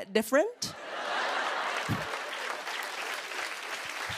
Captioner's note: applause